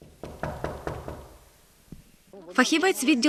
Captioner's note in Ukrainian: стук у двері